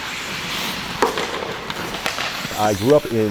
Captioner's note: puck clattering